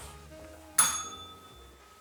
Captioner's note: bell rings